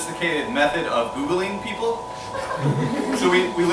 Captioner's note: laughing